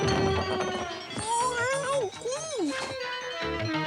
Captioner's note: struggling